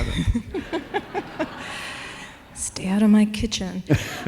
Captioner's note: laughter